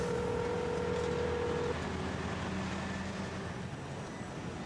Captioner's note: phone ringing